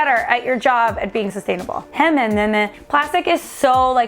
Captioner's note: speaks in gibberish